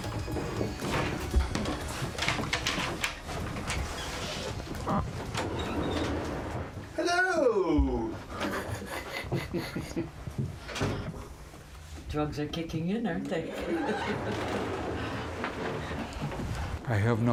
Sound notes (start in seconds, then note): 8.3 chuckles; 16.0 laughs